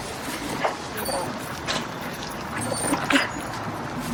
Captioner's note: dog whining